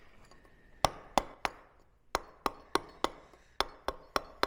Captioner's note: metal hammering